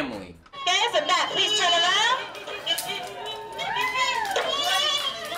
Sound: murmurs

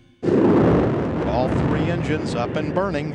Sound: rockets blaring

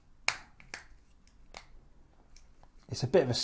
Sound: snap

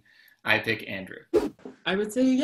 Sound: whoosh

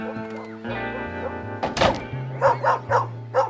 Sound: barking

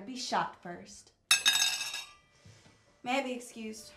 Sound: metal clanking

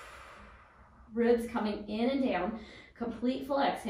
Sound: exhales

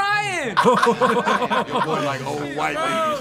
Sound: laughing

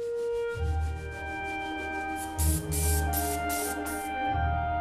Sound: peaceful music; airbrush spraying

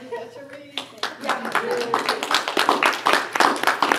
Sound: applause

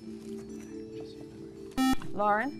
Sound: whispering; buzzer

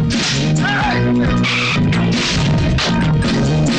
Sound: tires squealing

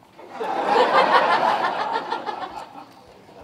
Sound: laughter

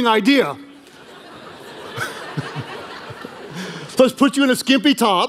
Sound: congregation laughing

